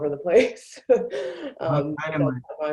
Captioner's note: laughs